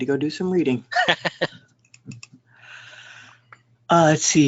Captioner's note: laughter